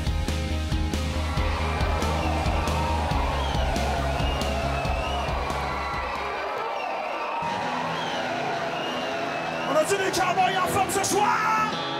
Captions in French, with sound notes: (cris d'enthousiasme) - On a des cowboys en forme ce soir?